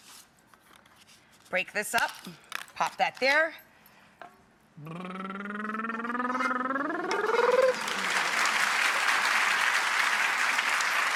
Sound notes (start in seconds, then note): 4.8 blubbers; 7.1 audience claps